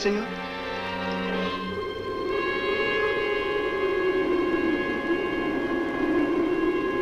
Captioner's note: dark music continues; wind howls